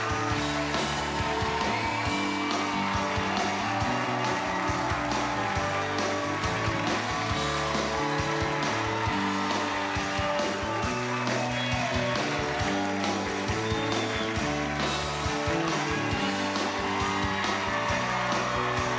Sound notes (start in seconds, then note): 2.6 cheers and applause